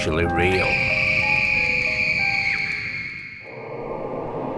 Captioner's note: screaming